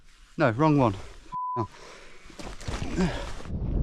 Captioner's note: beep